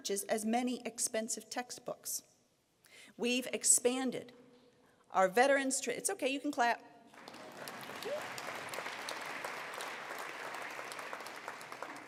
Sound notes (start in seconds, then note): 7.1 applause